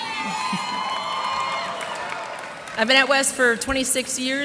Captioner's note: cheers and applause